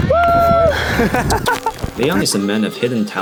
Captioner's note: laughs